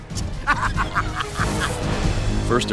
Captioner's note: evil laughter